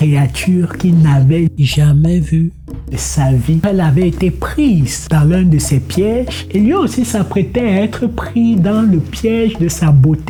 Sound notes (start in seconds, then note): none